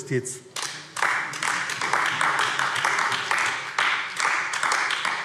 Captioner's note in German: Beifall AfD